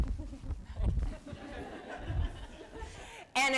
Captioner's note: laughter